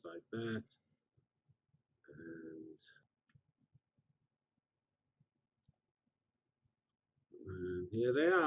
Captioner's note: pause